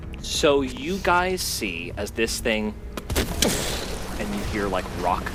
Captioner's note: explosions